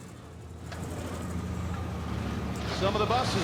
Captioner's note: engines rumbling